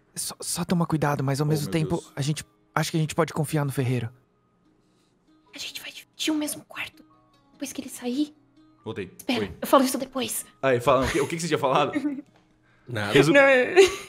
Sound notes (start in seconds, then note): 11.9 laughs